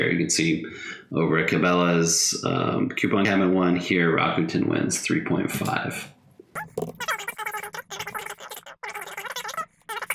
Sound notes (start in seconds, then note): 6.5 high pitched gibberish